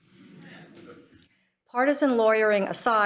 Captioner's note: laughter